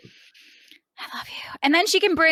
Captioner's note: whispers